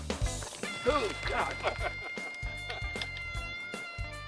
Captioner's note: gun shots; laughter